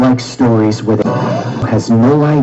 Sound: gasps

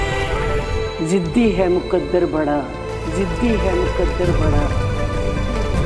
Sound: echoing

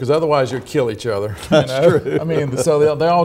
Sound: laughs

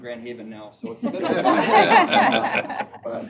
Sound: laughter

